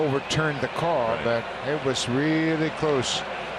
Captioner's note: cheering and Applause